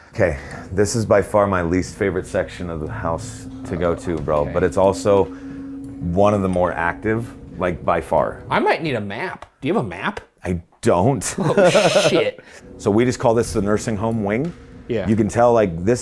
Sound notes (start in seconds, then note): 11.3 laughs